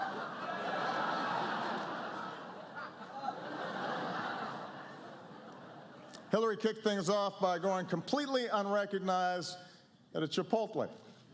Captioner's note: laughter